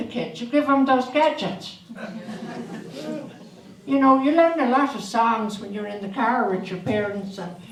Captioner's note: audience laughs